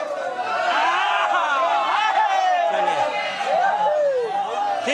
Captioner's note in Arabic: صيحات الحشد; هتاف الجمهور